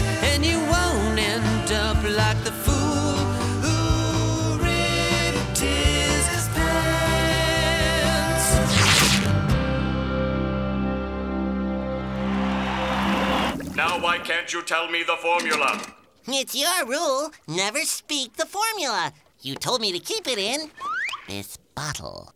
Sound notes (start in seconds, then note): 12.1 cheering